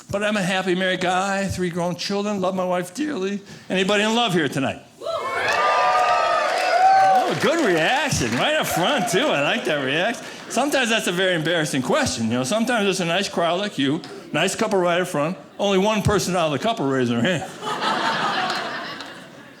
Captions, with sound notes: But I'm a happy married guy. Three grown children, love my wife dearly. Anybody in love here tonight? (audience cheering) Good reaction, right up front too. I like that reaction. Sometimes that's a very embarrassing question, you know? Sometimes, it's a nice crowd like you, nice couple right up front. Only one person out of the couple raise their hand. (audience laughing)